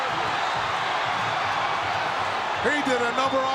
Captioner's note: audience cheering